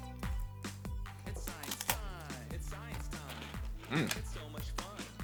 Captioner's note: ice cream crunching